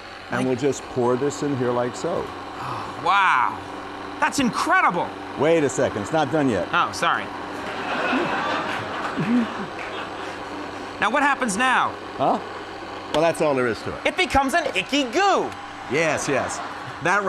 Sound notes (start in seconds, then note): 7.6 Conan and crowd laughs